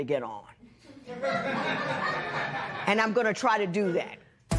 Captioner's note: laughter